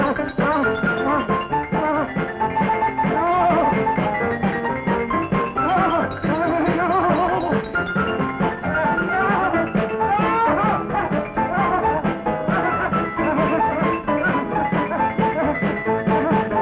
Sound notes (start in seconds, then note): 1.6 Regis whimpers; 9.0 cheerful pianola music; 9.8 Regis whimpers